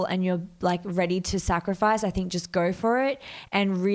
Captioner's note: none